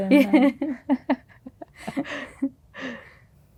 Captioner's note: laughter